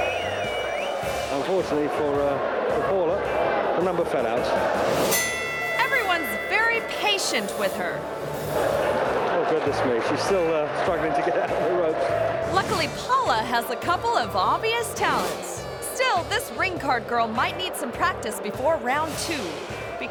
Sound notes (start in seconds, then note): 0.0 audience claps and cheers; 5.1 bell rings